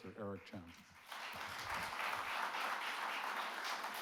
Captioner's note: audience clapping